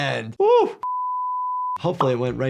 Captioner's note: test screen beeping